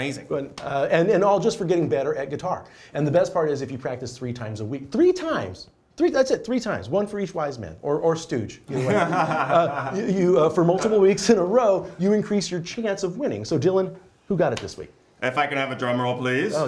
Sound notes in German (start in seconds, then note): 8.7 lachen